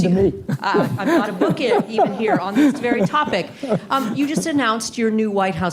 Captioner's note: laughter